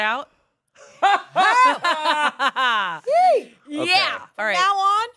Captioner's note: everyone laughs